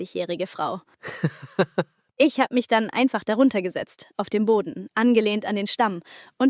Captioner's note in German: gelächter